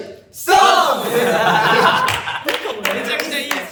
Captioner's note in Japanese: 笑い声